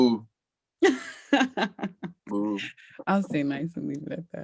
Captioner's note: laughing